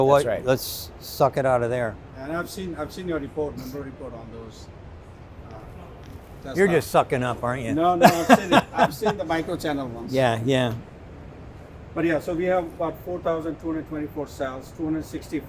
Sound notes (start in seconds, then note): 7.8 laughs